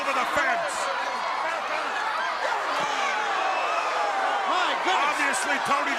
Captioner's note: crowd chatter